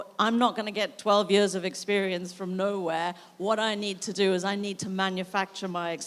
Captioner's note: none